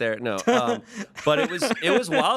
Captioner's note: everyone laughs